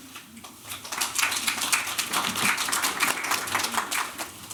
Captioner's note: applause